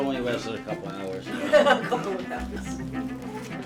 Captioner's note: laugh